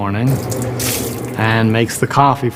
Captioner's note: water splashing